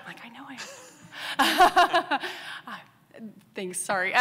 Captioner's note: laughs